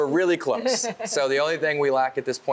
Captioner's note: laughing